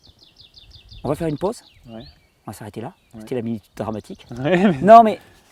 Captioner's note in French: rires